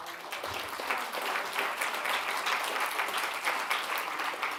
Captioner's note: audience applauds